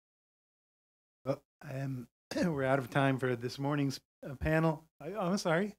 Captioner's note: cough